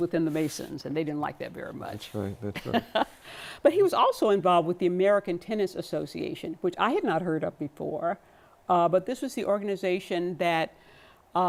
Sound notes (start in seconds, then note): 2.5 laughter